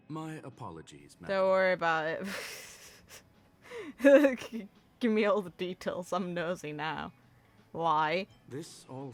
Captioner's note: laughs